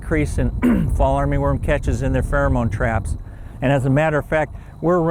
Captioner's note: coughs